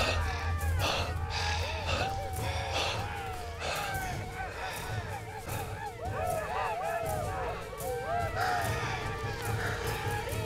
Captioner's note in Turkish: Bağırma sesi; Bağırma sesleri